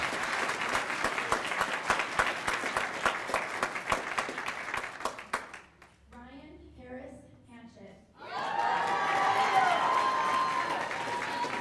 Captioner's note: cheers and applause